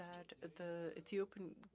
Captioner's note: speaking French